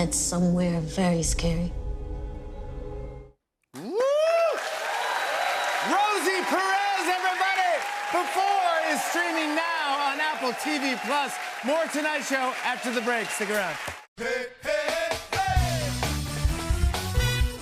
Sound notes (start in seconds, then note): 4.0 cheers and applause